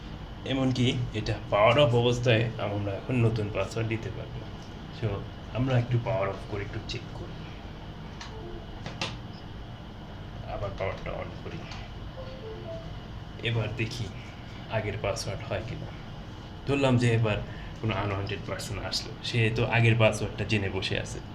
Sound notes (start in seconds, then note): 8.3 notification alert for removing USB device; 12.2 notification alert for adding USB device